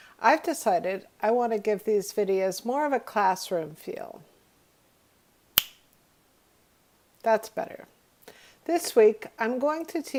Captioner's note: snaps